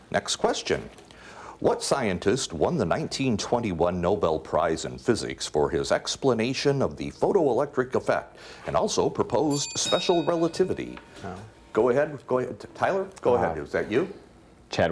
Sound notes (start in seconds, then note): 9.4 ding